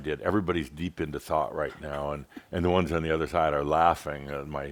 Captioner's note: giggles